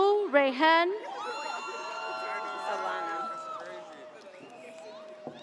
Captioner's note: audience cheers